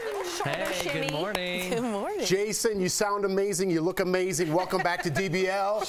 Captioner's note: applause